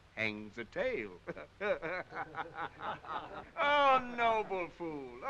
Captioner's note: men chuckling